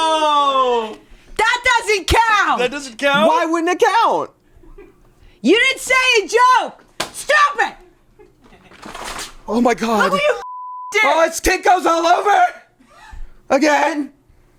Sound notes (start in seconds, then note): 8.4 plant thuds; 10.4 beep